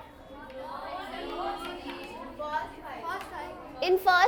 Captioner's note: students disagreeing